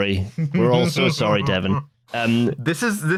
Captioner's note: laughs